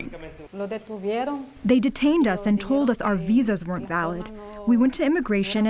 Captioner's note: through translator